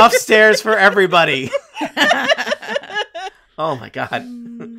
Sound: laughing

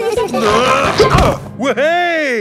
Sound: all giggling; grunting

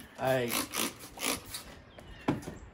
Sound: spray bottle squeaking

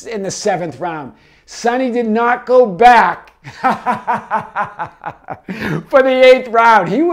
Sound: laughs

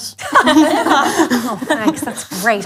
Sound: laughes

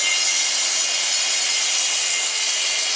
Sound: loud sawing noise

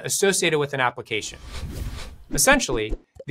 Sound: screen whooshing

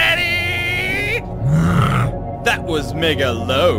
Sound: disapproving groan

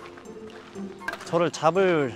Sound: trudging

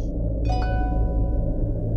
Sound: phone ringing

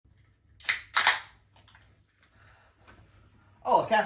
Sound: can tops popping

